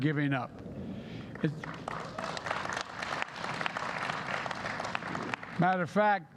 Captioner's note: applause